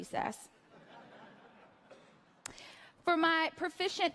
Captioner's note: laughter